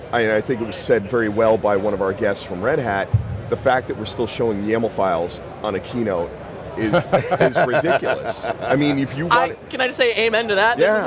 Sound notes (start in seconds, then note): 6.8 laughs